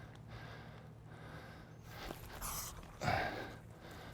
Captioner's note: breathing heavily